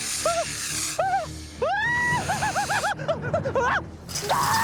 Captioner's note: Marvin screaming